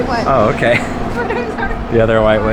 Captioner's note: laughing